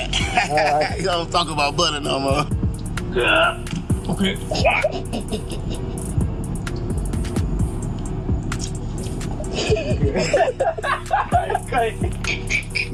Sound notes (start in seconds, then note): 0.0 laughing; 3.2 grunt; 9.4 laughing; 12.1 cackling